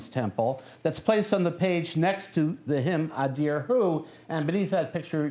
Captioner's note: non-english speech